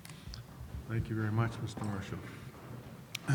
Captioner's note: voiceover